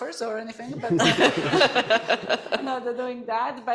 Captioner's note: laughter